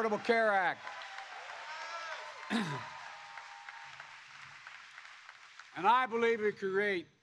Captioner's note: applause